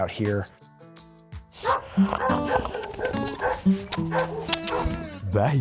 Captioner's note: upbeat music; lips kissing